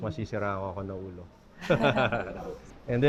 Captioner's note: laughs